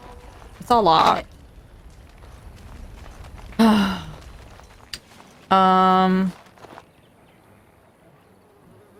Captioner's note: exasperated sigh